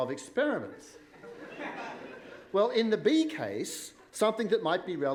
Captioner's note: laughter